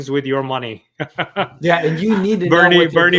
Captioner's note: chuckles